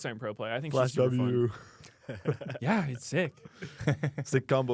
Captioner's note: laughs